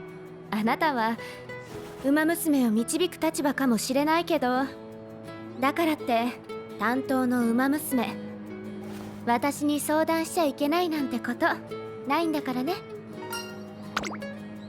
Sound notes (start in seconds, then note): none